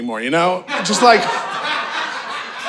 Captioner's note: audience laughing